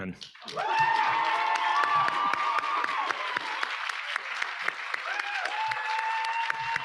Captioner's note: audience applauding; audience cheering